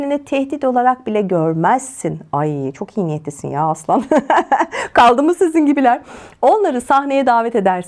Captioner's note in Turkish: kahkaha